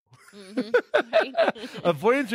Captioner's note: laughing